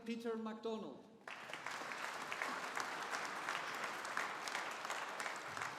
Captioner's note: audience applauding